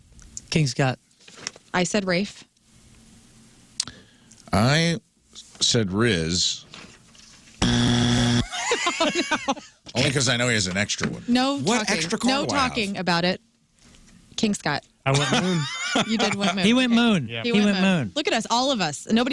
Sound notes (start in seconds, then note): 7.6 buzzer; 8.4 laughing